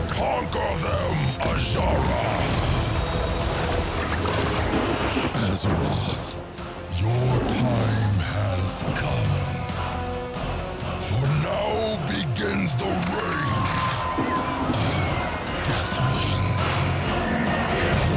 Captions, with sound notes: Conquer them, Azshara! [thunder crashing] Azeroth, your time has come. -[screaming] -For now begins the reign of Deathwing.